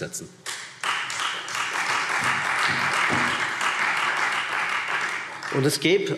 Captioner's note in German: Beifall Freie Demokraten und vereinzelt SPD